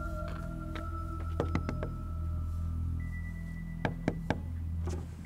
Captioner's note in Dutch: geklop op raam